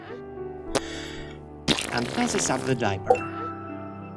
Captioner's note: sigh